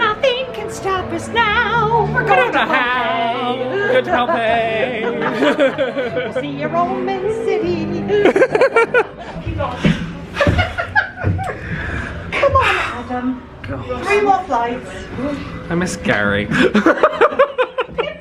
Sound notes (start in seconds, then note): 5.6 both laughing; 8.1 both laughing; 10.3 laughing; 16.5 laughing